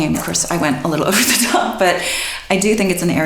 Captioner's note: laughs